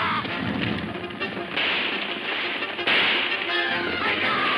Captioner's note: guns firing